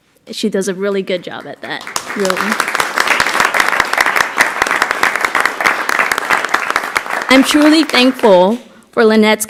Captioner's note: applause